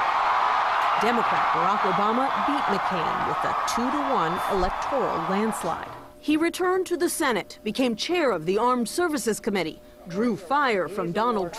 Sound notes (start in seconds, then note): 6.4 cheers and applause